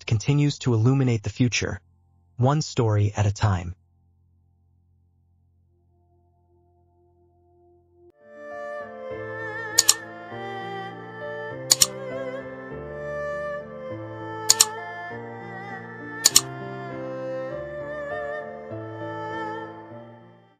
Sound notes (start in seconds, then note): 3.9 gentle music; 9.1 keyboard clicking; 16.2 keyboard clicking